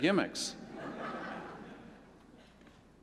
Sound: laughter

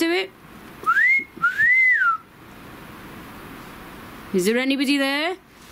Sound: wolf-whistles

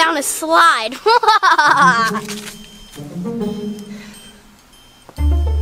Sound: Evil Assistant laughs

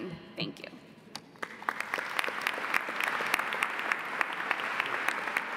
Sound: audience applauding

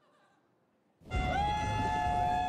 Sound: people cheering

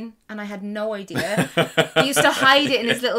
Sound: laughs

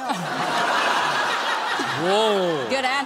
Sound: laughter

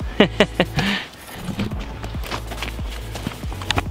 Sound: laughs

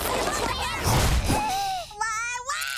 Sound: arguing; gasping

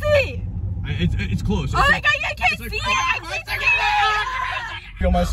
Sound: more screams

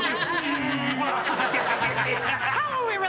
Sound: laughing

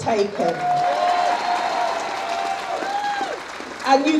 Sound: audience cheers

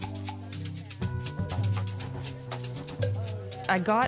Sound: lighthearted music continues; attendees chattering

